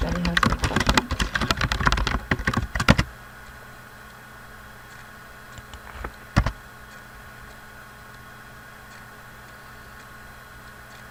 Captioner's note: typing